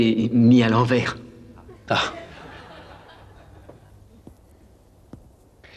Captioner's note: laughter